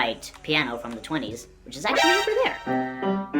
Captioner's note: Metal Gear Solid exclamation point sound effect